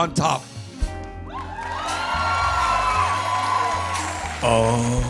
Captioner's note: cheers and applause